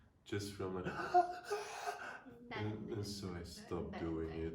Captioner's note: shrieking